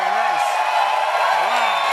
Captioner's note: cheers and applause